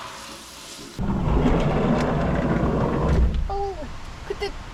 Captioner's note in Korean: 갑자기 부는 태풍급 바람